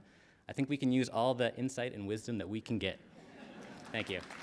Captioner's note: laughter